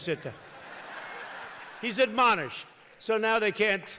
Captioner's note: laughter